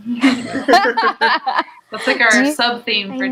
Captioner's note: laughs